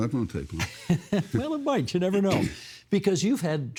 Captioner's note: laughing